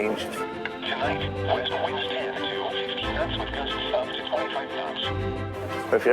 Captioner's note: sound of weather radio